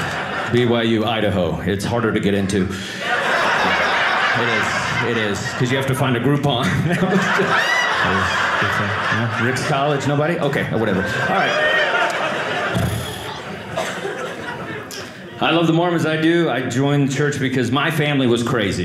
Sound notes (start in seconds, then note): 2.7 audience laughing; 7.0 audience laughing; 11.5 audience laughing